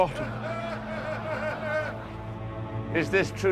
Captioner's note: VOLDEMORT'S FOLLOWERS LAUGНlNG